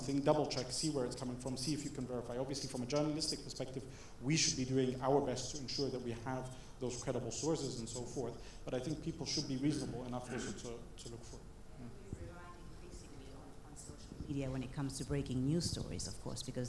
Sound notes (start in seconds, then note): 13.5 speaking without mic on